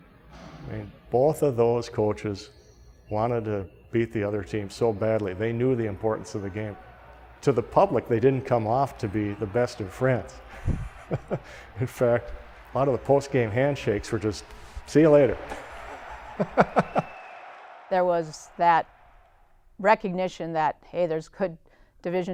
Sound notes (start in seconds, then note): 10.3 laughs; 14.8 laughs; 16.6 loud cheering